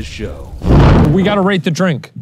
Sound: smoke whooshing

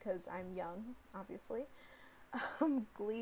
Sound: chuckles

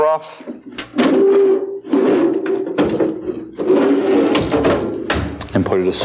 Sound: metal on metal sliding

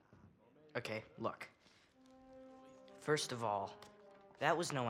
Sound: none

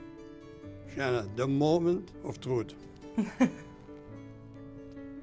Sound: laughs

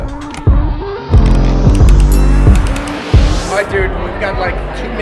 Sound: elevator dings

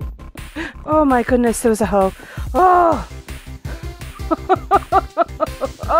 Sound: nervous laughing

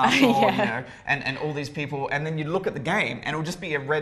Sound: laugh

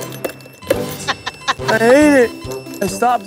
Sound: giggles; laughs

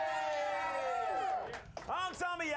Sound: audience cheering

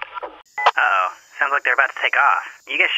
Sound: over comm

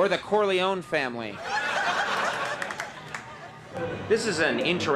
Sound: audience laughing

